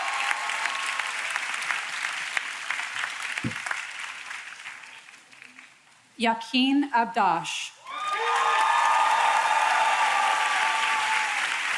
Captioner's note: applause